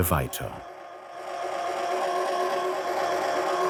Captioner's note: whirring